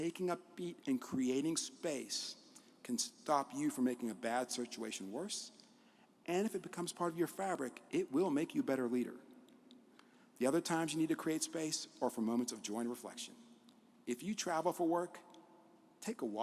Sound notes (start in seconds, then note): none